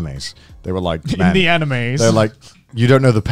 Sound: laughing

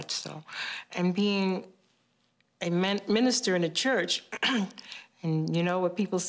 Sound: clearing throat

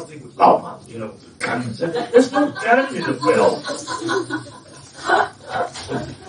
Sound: laughter

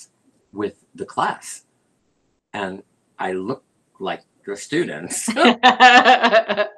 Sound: laughter

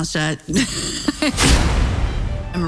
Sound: laughs

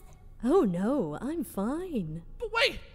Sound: terrifyingly calm

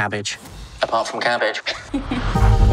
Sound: Lisa laughs

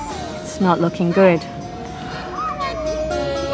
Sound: gasp

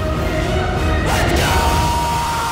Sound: screech

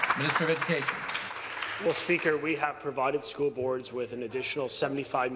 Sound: some Applause

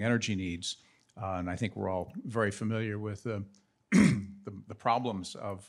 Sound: coughs

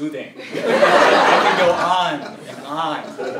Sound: laugh

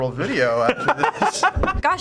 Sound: laughing

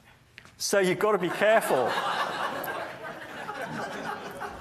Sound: audience laughs

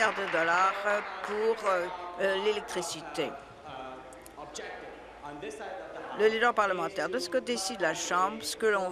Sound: applause

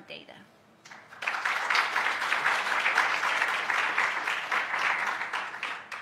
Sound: applause

